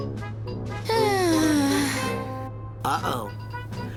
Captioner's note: sighs